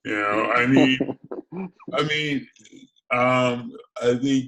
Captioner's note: laughs